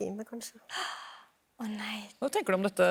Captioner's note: gasp